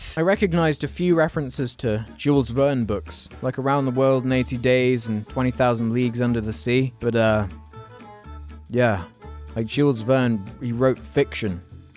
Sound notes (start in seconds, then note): none